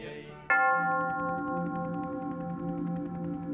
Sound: bell rings

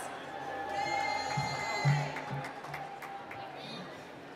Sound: cheering

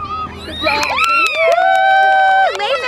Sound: crowd cheering

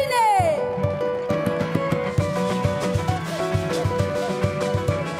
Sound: audience applauds

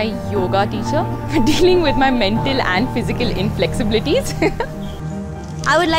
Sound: laughs

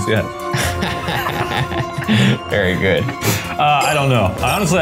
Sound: chuckles

